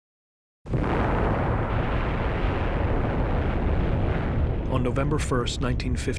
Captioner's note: explosion roaring